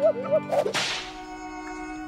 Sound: whip sound effect

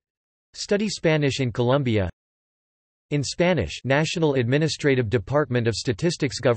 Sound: in Spanish

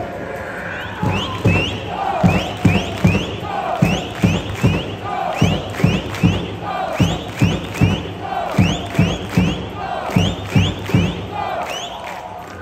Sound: clap clap clap

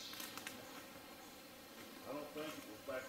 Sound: twigs snapping

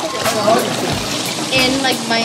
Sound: water splashes

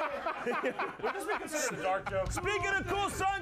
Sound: laughter

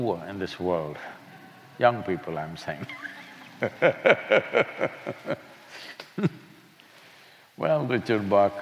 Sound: laughs

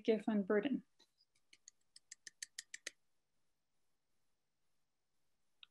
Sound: clapping softly

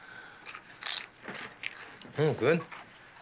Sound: crunching

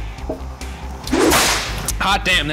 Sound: whip cracks

